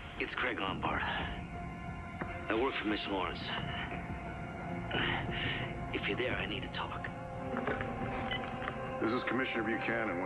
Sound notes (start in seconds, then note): 4.8 grunts